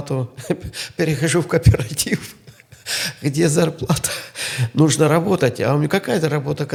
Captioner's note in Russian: смех